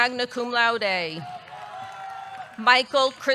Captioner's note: audience cheering